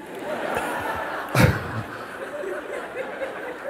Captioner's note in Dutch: gelach